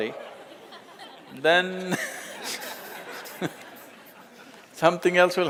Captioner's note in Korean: 웃음